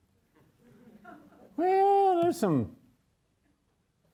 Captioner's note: audience chuckles